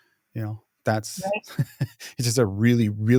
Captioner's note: laughs